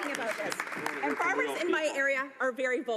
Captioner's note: applause